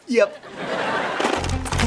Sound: laughing

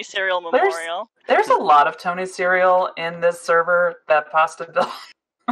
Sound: laughs

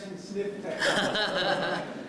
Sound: laughter

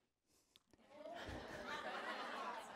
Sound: laughter

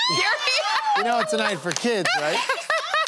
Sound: laughter

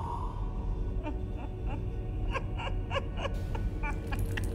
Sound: woman laughing

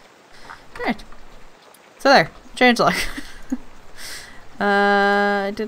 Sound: laughs

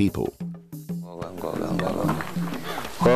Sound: indistinct chatter

